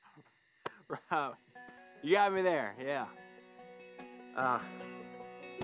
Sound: laughs

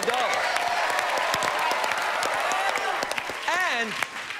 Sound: cheers and applause

